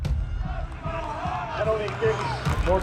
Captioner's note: crowd